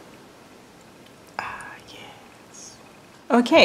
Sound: whispered

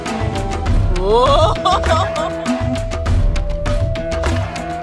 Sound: background music; laugh; background music

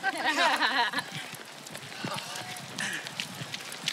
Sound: footsteps crunching on gravel; heavy breathing and panting

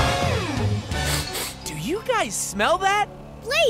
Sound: sniffing

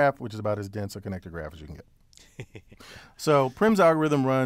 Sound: laugh

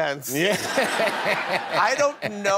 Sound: laughter

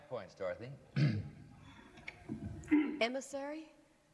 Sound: clears throat

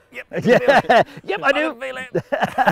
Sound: all laughing

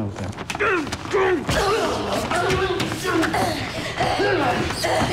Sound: he grunts

